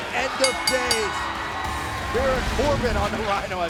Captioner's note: bell ringing; crowd cheering